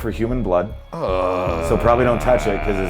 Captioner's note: groans